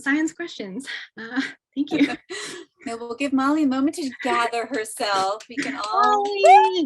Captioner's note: laughs